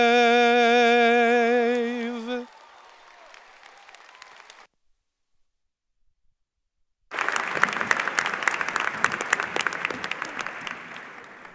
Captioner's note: applause